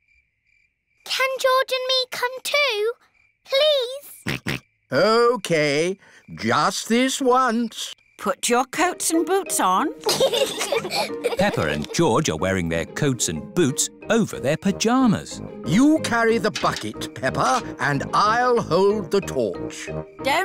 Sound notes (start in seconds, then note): 3.8 snorts; 10.0 both giggle